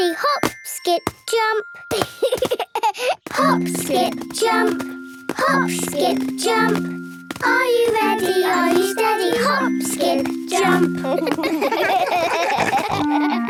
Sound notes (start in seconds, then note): 11.0 laughing